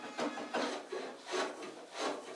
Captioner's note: rhythmic planing